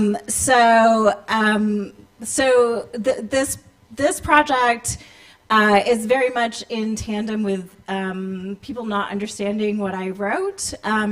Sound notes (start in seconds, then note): none